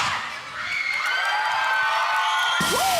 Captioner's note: audience cheering